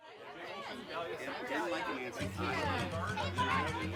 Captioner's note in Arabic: الناس يتحادثون; عزف الجيتار المهدئ